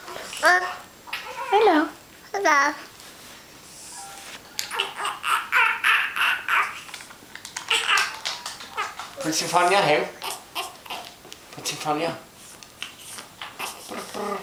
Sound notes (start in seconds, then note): 4.6 baby making noises on the floor